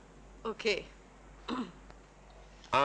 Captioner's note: clears throat